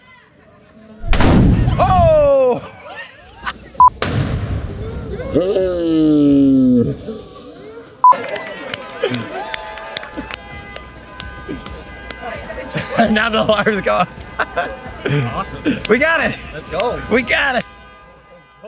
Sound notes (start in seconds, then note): 1.0 canon booms; 8.5 crowd cheers; 14.7 laughing